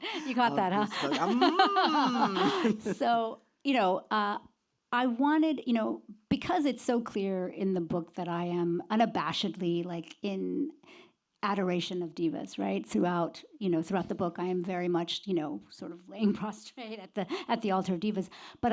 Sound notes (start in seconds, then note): 0.0 laughs